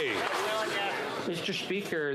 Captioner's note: some Applause